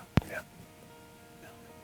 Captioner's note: whispering